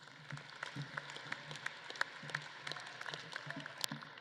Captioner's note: audience claps